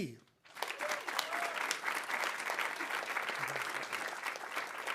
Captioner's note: audience applauding